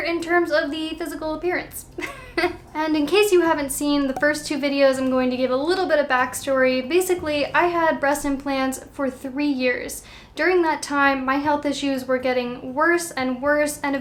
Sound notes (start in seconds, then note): 2.0 chuckling